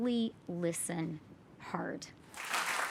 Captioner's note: applause